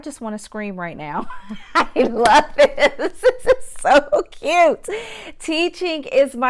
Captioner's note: laughs